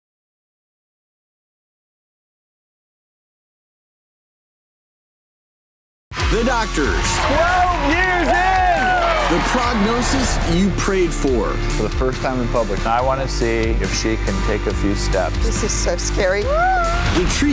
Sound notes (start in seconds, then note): 8.7 cheers, applause